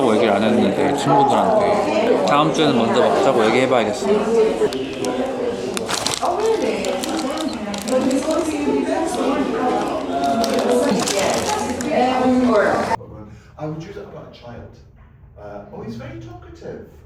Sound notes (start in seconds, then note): 9.5 haha